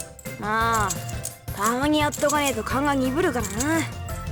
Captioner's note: none